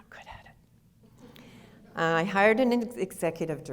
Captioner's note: audience laughter